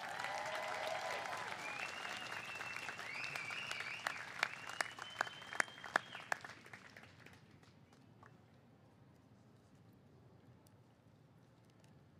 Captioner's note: cheers and applause